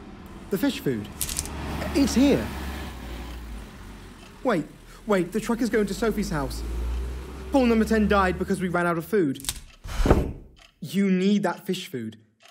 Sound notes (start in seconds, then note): 0.0 truck engine running; 1.0 blinds bending; 2.6 truck braking; 9.4 blinds snapping; 9.6 chair scooting loudly